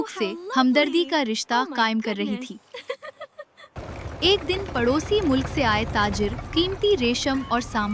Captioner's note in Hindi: हंसी